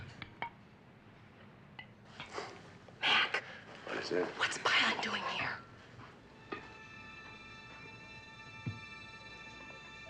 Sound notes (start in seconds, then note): 3.2 fısıldayan